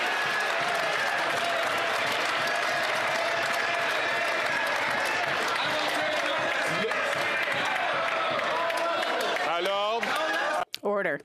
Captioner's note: some Applause